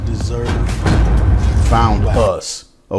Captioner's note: metallic boom